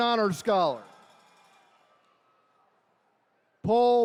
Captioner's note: attendees cheering